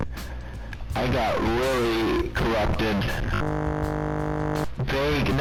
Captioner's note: glitching noise